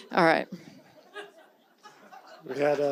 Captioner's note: audience titters